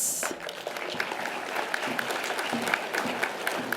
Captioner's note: audience applause